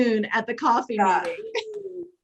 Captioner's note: laughs